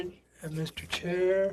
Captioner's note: speaking French